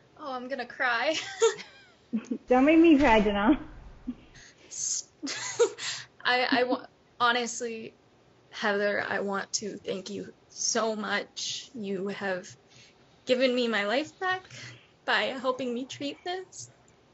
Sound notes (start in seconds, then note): 2.1 giggles; 5.2 giggles